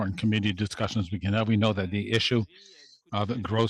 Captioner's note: speaking French